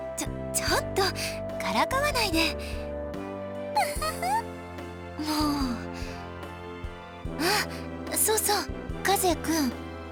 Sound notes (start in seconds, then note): 3.8 giggle; 5.2 sigh